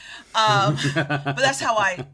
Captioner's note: laughing